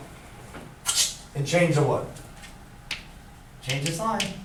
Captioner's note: blows air